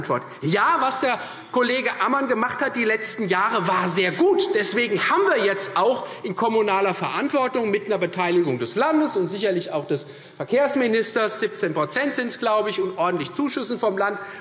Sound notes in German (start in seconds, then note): none